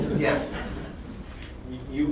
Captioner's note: laughter